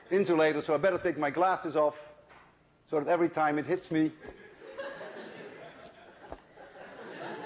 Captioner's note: laughter